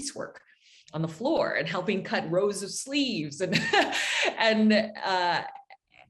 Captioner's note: chuckles